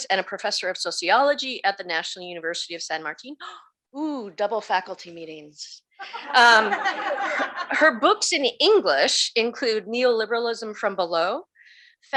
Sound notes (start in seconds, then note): 6.0 audience laughs